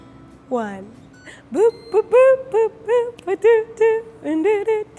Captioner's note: humming